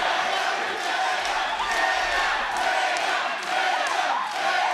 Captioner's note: crowd chants, Tatum